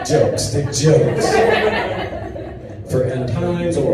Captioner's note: audience laughs